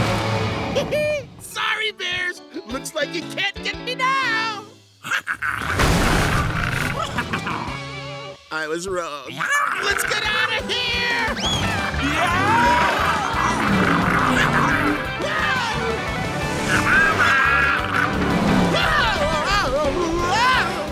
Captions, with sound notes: He he, sorry bears, looks like you can't get me now! [growling] I was wrong. Let's get outta here! [yelling] [growling] [screaming]